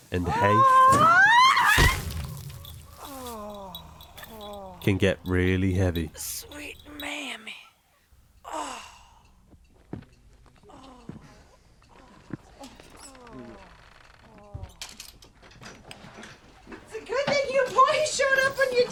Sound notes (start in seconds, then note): 0.2 Mrs. McDonald screams; 1.6 heavy thud splatting; 2.5 cat bell jingling; 3.1 groaning; 8.4 Mrs. McDonald moaning; 9.1 groans; 9.4 quiet foot falls thumping; 12.7 door creaks; 13.5 door knob rattles